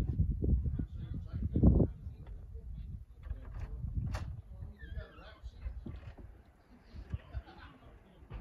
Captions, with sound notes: *wind blowing* door creaking*